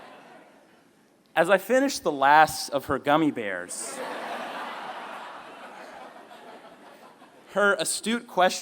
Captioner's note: laughter